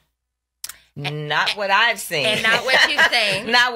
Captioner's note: laughs